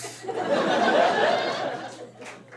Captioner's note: audience cackles